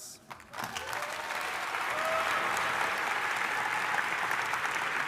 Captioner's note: audience applauding